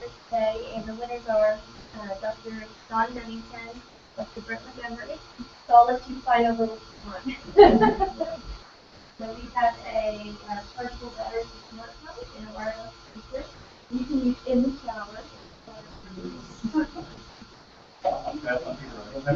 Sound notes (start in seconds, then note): 7.2 laugh